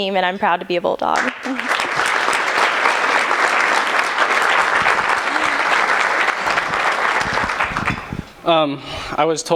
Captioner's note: applause